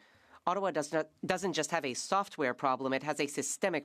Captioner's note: speaking French